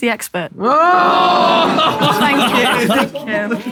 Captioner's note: people in room exclaiming